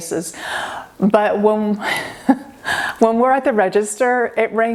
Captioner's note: laughing